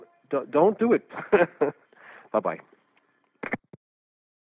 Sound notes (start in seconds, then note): 1.2 laughs; 3.4 phone click